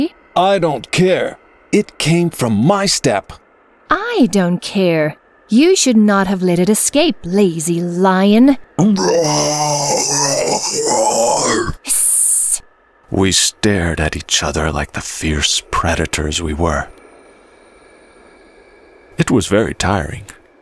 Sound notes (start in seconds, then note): 8.7 fox hiss; 8.8 lion roar